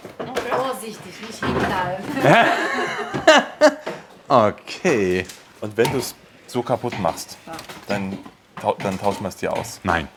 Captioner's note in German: gelächter